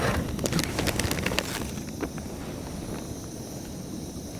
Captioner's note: bag crinkling